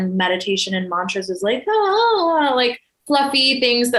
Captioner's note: exclaims